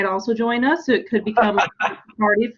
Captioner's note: laughing